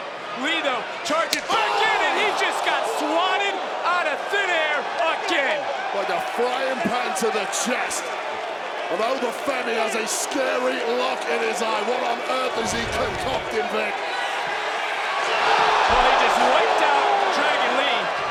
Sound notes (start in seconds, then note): 13.5 audience cheering